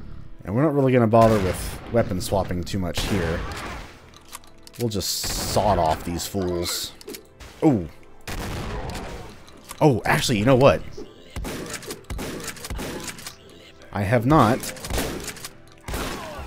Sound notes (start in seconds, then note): 11.3 rapid Shotgunning